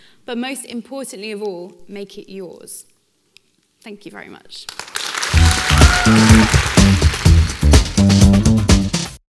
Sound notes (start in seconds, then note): 4.7 audience applauding; 5.2 upbeat music